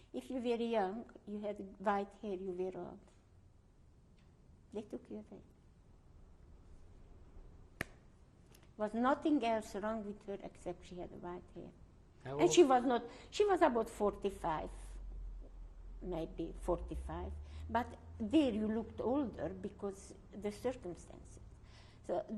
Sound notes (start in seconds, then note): 5.9 pauses for 3 seconds